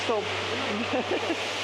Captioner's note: laughter